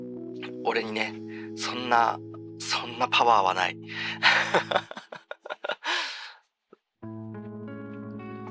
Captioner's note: laughs